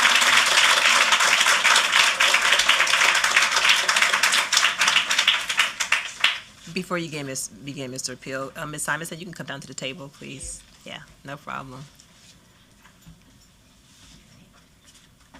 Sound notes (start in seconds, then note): 1.6 applause